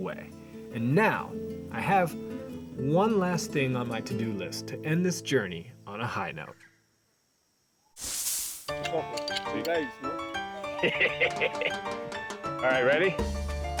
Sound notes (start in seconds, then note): 7.5 upbeat latin-tinged music; 10.6 chuckles